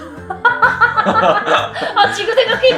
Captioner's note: devil's laughter